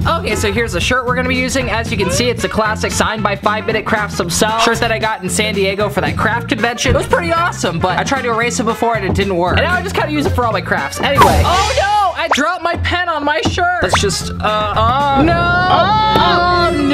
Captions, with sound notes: Okay, so here's the shirt we're gonna be using. As you can see, it's a classic, signed by 5-Minute Crafts himself. Shirt that I got in San Diego for that craft convention. It was pretty awesome, but I tried to erase it before, and it didn't work. And now I just kinda use it for all my crafts. Anyway- oh, no! (cymbal crashing) I dropped my pen on my shirt. Let's just- (groans) no!